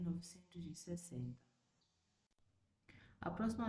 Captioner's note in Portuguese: Sem som